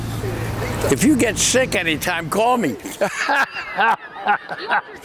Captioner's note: laughs